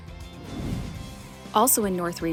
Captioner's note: swoosh sound effect